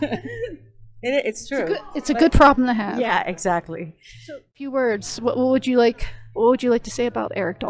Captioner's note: laughter